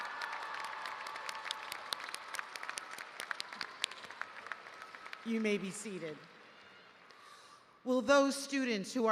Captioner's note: cheers and applause